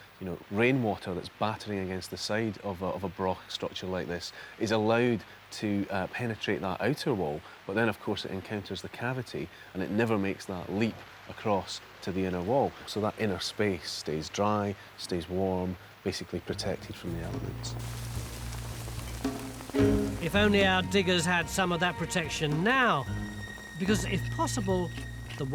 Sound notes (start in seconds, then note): 18.1 gentle music; 18.1 pouring rain